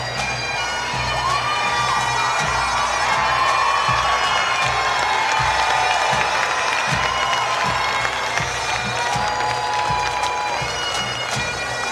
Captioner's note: applause